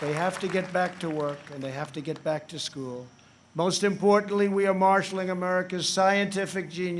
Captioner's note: applause